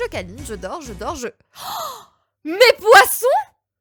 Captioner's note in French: gasp violent